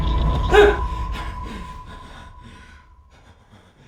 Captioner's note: man gasps